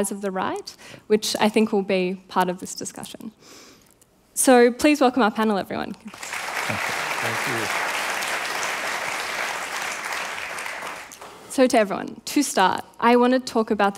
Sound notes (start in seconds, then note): 6.0 applause